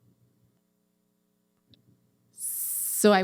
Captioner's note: audio drop